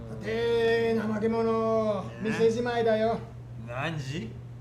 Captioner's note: Toshio speaking in foreign language; customer speaking in foreign language